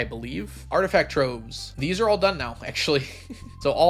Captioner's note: laughs